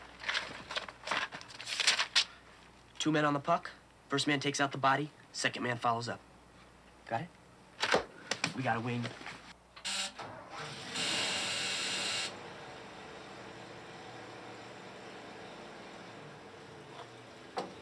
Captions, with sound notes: Two men on the puck, first man takes out the body, second man follows up, got it? We got a wing. (bus engine revs)